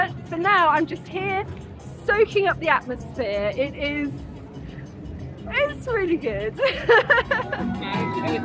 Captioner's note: laughing